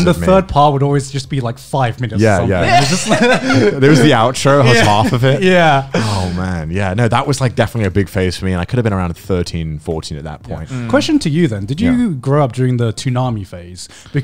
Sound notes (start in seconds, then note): 2.6 laughing loudly